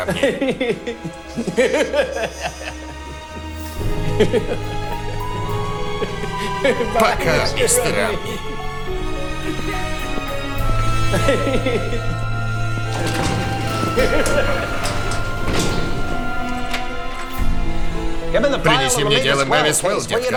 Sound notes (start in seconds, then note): 3.1 laughing; 8.7 coughing, laughing